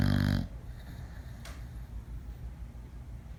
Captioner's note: Panda the dog, snoring loud